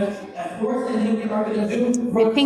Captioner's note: speaking foreign language